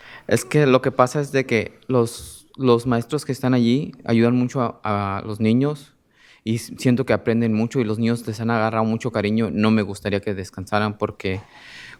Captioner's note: speaking in spanish